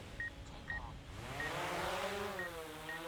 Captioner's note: device beeping; propellers whirring